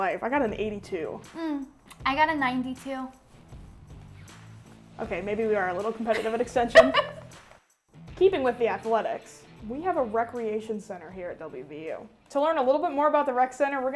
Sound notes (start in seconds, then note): 6.1 laughing